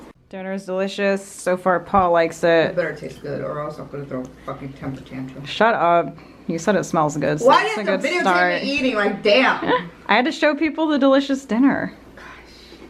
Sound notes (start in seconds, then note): 9.8 laughs